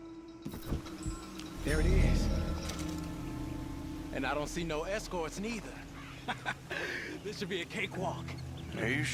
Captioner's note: laughs